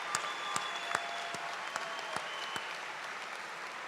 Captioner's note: cheers and applause